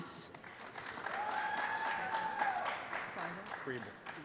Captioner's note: applause